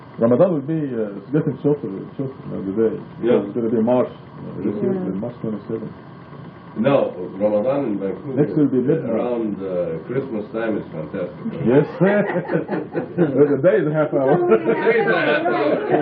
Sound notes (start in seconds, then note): 11.5 laughing